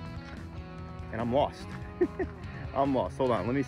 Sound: laughs

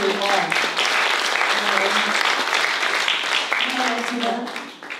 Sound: applause

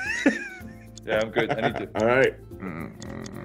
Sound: laugh

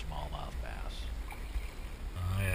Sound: splash

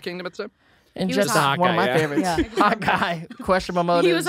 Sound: laughs

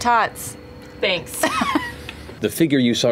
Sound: laughter

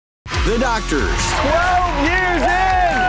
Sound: cheering

